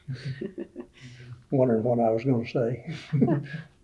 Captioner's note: laughs